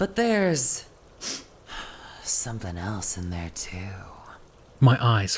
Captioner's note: Ainsley sniffs